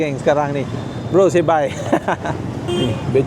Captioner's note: laugh